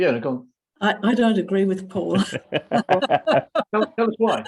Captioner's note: laughter